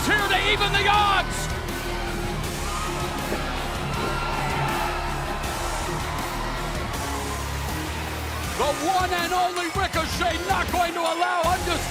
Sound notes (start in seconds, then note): 4.7 cheers and applause